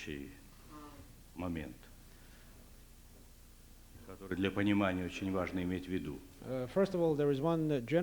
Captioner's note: non-english speech